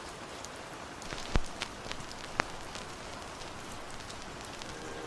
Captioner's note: record fuzz